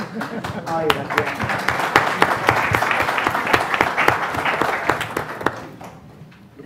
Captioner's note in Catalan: Aplaudiments